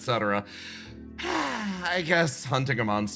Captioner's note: Yaiyo Sigh